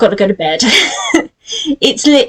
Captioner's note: laughs